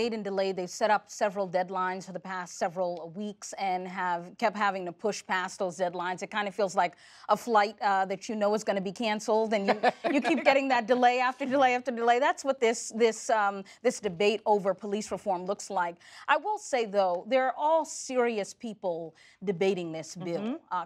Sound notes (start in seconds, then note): 9.6 laughter